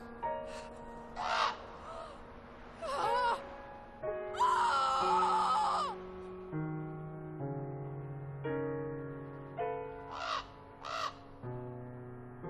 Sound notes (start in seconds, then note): 1.0 bird cawing; 4.3 Esther screaming